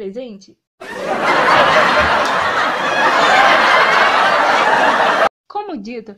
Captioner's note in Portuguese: risos